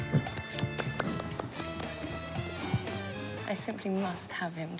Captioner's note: upbeat music continues; Kenneth clapping